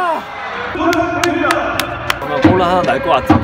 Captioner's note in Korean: 짝짝짝짝짝